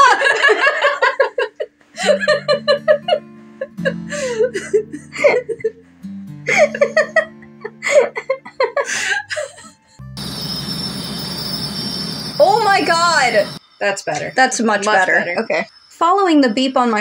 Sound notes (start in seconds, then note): 0.2 both Laugh; 10.1 loud Crickets Chirping